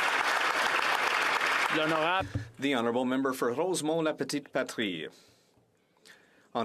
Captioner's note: applause